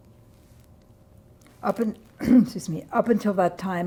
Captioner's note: clears throat